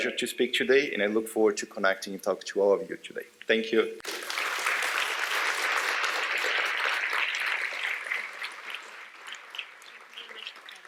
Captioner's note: applause